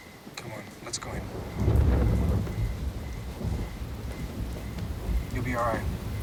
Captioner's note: loud thunder